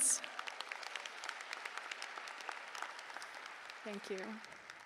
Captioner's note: applause